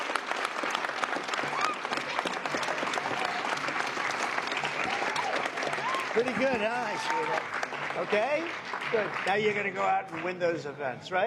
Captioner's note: applause